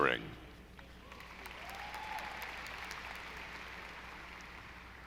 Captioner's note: audience applauding